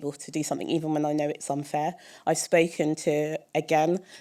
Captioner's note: none